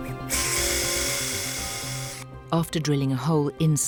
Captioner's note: instrument drilling